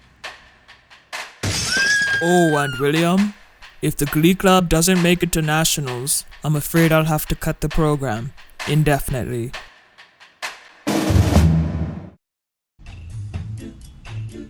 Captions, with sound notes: [glass break] [girl scream in terror] Oh and William? If the glee club doesn’t make it to Nationals, I’m afraid I’ll have to cut the program indefinitely.